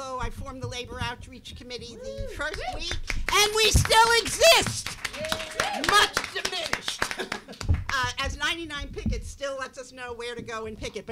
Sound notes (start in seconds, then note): 2.4 clapping; 3.3 cheering